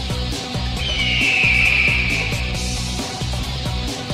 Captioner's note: eagle screeches; energetic rock music